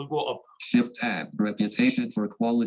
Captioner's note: automated Voice